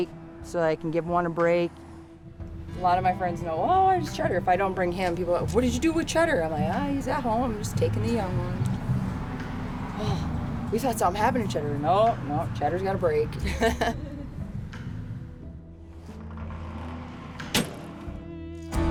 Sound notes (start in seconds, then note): 13.4 laughs; 15.8 gentle calm music